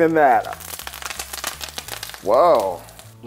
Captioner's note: oil sizzling